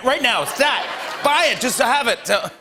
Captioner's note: laughter